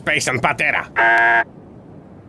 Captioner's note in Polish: dźwięk domofonu